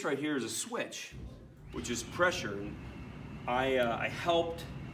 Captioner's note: air whooshing